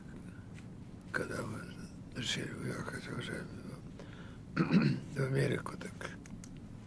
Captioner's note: clears throat